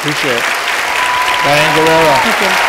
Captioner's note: applause